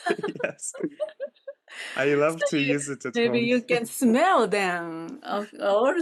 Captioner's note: laughing